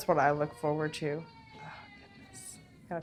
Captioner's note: crying